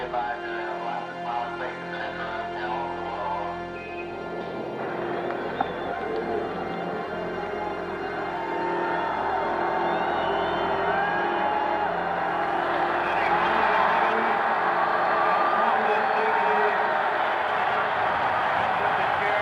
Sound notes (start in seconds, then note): 8.7 crowd cheering and applauding; 15.2 cheering continues